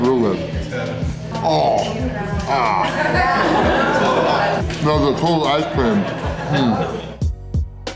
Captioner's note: crowd laughter